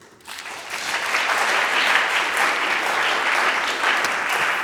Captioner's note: audience applauds